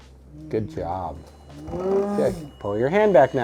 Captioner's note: mutters